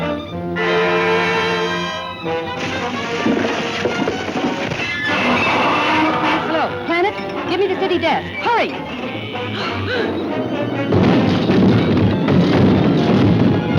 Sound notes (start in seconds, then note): 2.5 ice cracking; 5.1 monster roaring; 9.9 Lois gasping; 11.3 phone booth clamoring; 13.5 building crashing